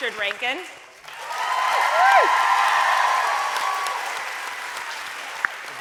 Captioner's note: audience cheering